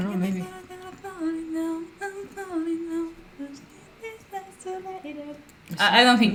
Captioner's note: hums the song